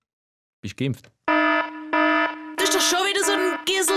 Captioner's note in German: Alarm